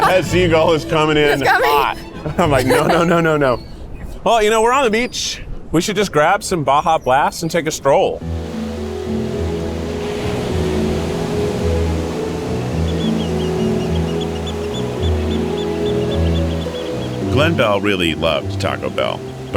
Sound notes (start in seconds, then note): 8.2 melodious music; 8.2 waves crash